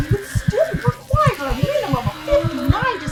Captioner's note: C: sensual breathing